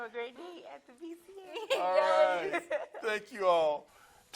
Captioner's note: laughs